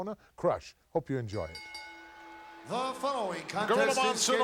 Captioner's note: bell rings